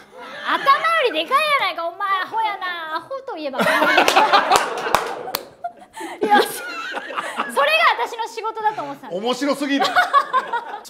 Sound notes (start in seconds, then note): 3.6 laughter